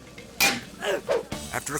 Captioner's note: transition whips; metal clangs; person grunts